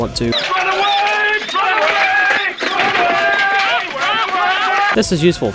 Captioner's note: everyone screaming "run away"